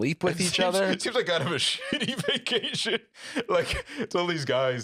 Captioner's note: laughing